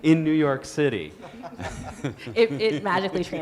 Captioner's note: guests laughing